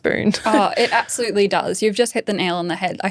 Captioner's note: laughing